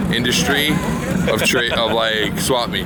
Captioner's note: laughing